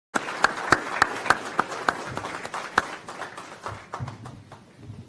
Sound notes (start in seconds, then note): 0.1 applause